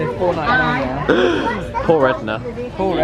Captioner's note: gasps